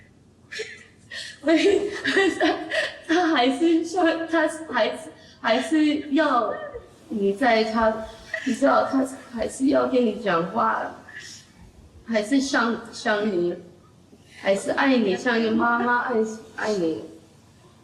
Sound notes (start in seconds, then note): 0.5 grandmother crying; 3.1 speaking in foreign language